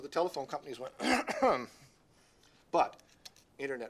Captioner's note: clears throat